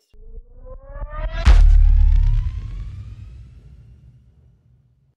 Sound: whooshing sound effect

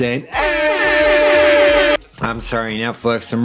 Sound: airhorn

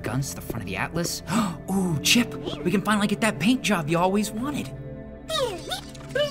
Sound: gasp

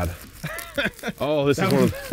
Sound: laughing

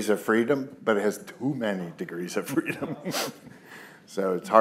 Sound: chuckles

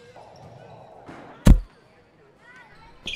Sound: thump

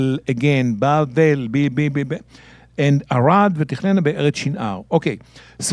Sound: speaking in Hebrew

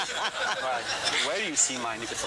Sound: laughter

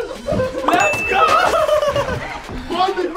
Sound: laughs

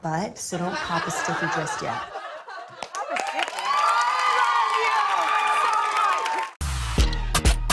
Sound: cheers and applause

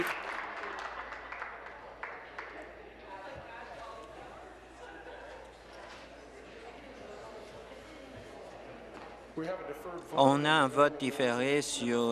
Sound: applause

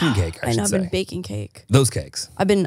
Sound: sighs

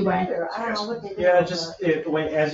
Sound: speaks distantly

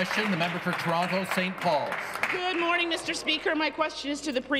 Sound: applause

